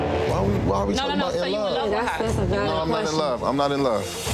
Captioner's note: overlapping chattering